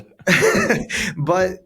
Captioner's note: laughs